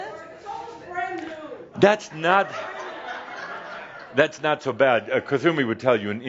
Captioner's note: laughter